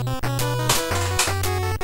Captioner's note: in game music; bonk